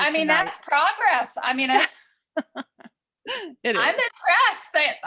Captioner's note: laughs